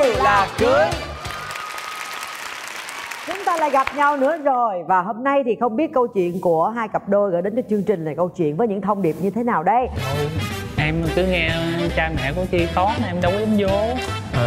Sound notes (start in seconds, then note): 0.9 applause